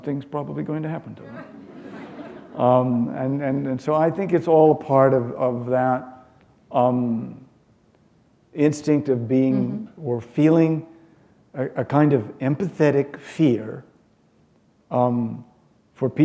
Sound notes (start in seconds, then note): 1.2 chuckle